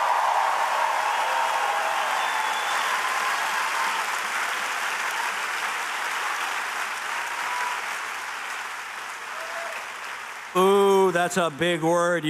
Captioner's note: cheers and applause